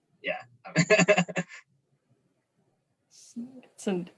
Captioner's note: chuckles